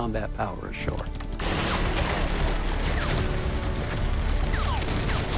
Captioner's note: gunfire